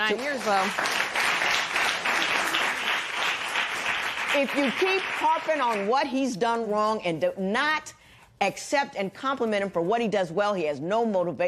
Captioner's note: applause